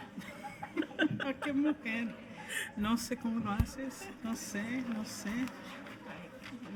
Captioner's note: laughs; speaking in foreign language